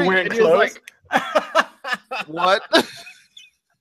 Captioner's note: laughing